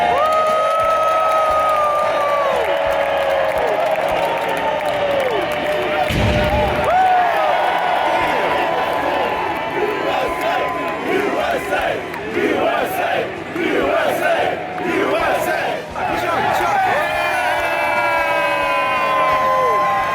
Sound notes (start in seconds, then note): 0.2 crowd cheers; 9.6 USA chants